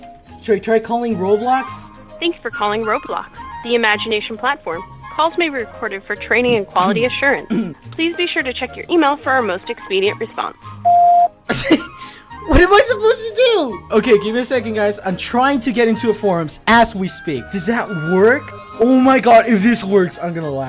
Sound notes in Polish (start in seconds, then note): 11.5 śmiech